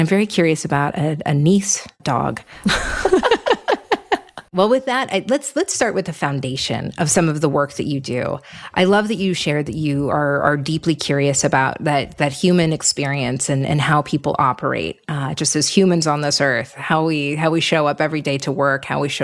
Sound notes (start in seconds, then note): 2.6 both laugh